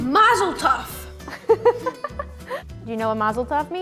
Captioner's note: interviewer laughs